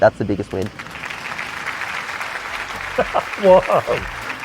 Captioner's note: applause; chuckles